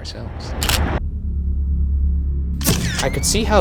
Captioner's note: camera clicking